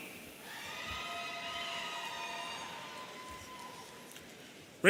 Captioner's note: audience cheering